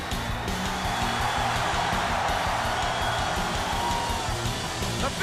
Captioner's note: audience cheers